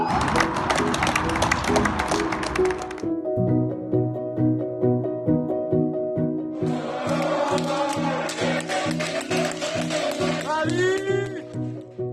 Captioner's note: applause